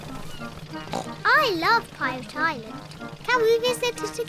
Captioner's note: oinks